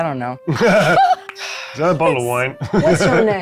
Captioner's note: players laughing